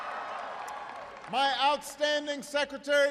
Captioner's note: applause